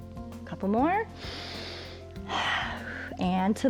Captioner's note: inhales and exhales